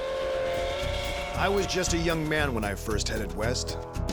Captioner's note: train whistle